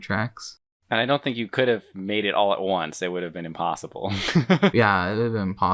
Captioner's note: laughs